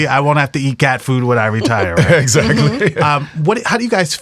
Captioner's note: laughs